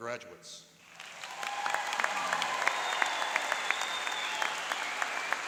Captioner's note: applauding and cheering